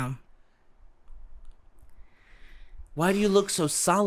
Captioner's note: silence